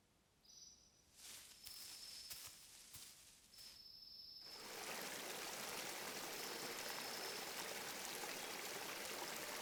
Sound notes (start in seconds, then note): 4.5 water rushing